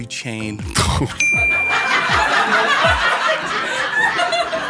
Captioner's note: high-pitched ding; laughing